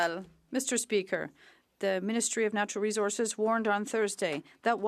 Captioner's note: speaking French